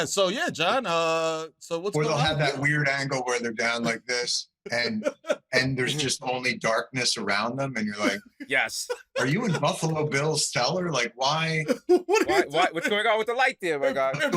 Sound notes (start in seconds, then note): 11.5 laughter